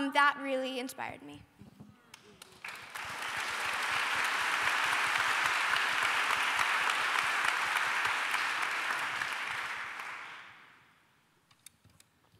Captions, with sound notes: that really inspired me. [APPLAUSE]